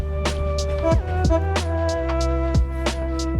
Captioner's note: train horns